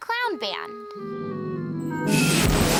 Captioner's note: scraping sound